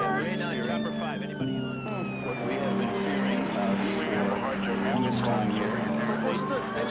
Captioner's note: police sirens wailing; reporters chattering